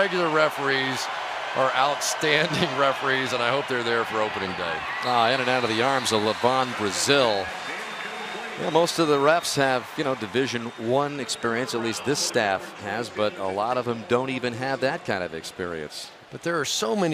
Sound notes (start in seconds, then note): 7.9 pa announcement